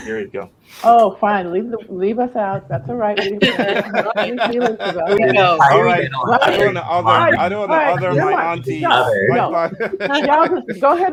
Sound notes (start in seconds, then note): 2.5 laughter